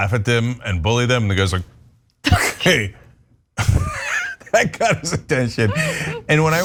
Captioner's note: laugh